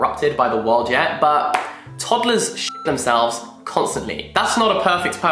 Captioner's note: beep